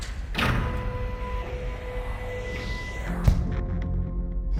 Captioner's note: mechanical movements; dramatic music